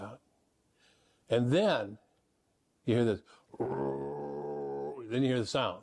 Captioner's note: growling